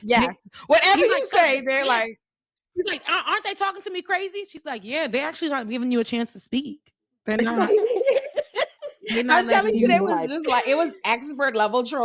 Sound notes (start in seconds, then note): 7.4 laughing